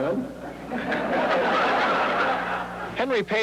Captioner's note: audience laughs